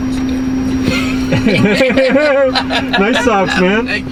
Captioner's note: men laugh